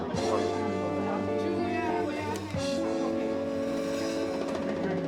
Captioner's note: chatter